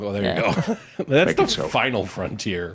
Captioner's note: laughs